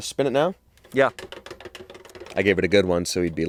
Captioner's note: wheel clicking